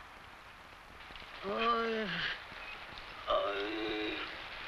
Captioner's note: man groans